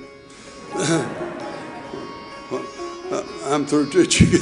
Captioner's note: audience laughing